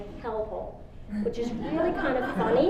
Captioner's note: audience laughs